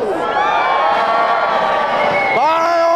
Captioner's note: crowd cheering